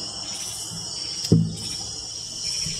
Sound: staff thumps

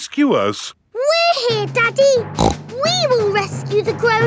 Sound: snorts

